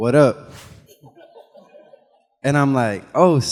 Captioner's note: animation whooshes; audience laughing